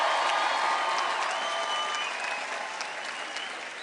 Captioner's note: applause